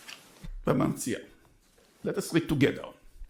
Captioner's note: speaking in foreign language